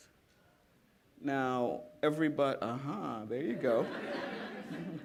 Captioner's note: laughter